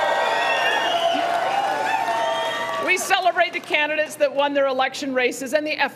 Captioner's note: cheering